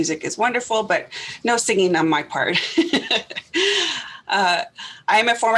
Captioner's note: laughs